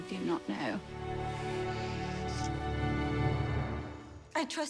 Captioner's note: dramatic music; lips smacking